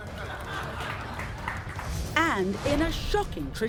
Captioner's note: audience laughs